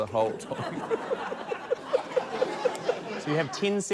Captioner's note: laughs